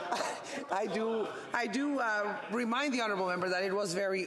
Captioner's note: laughter